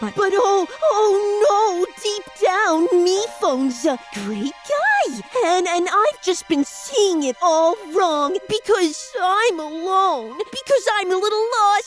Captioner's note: mocking